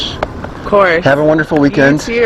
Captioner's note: handshake